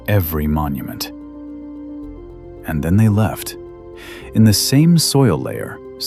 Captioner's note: breath